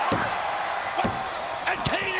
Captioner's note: referee taps